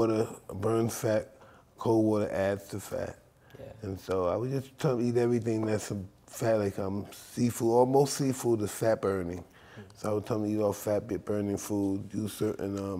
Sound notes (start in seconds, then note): none